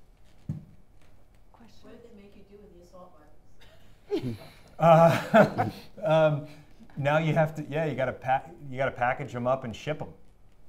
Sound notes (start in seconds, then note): 4.0 audience chuckling